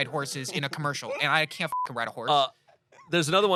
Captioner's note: beep